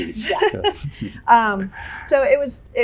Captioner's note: laughter